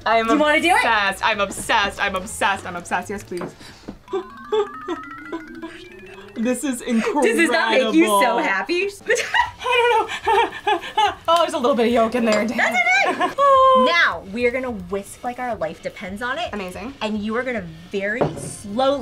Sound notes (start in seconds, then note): 3.7 gasps; 9.0 both laugh